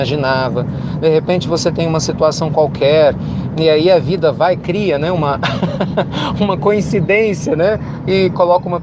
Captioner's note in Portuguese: risos